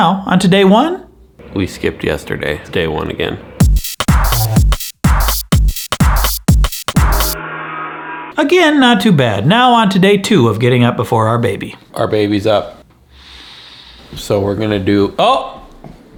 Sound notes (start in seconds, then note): 3.6 intense club music; 7.3 gong echoes; 13.1 inhales deeply